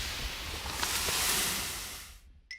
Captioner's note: crashes